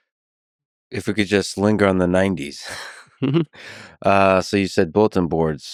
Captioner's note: laughs